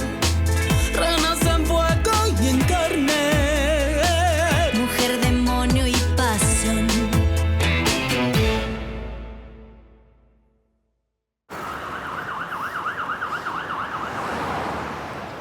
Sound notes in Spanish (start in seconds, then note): 11.5 Sirena de ambulancia